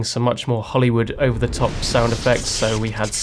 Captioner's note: lightning crackles